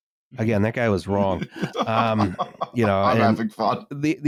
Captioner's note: laughs